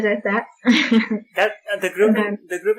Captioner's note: laughter